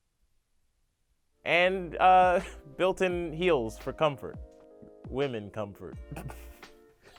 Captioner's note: chuckles